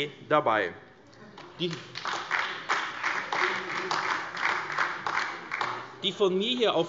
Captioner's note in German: Beifall AfD